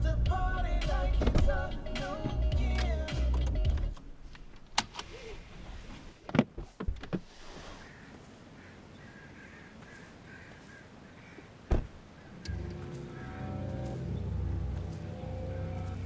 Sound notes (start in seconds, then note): 4.7 seatbelt clicks; 7.8 crows cawing; 11.6 door thuds; 12.4 sinister music